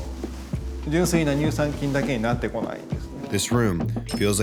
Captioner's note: continues speaking Japanese